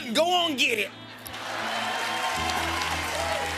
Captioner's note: cheers and applause